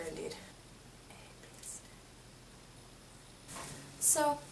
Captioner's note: whispers